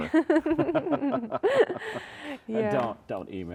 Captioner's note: both chuckling